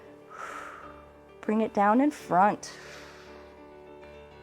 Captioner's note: exhales